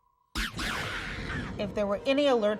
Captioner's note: laser gun revving